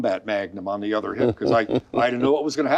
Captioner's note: laughing